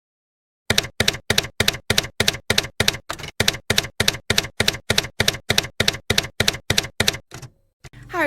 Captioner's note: typewriter keys clacking